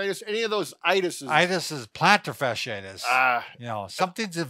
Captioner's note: sighs